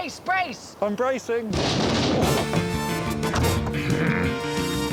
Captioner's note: boat thumps; theme music playing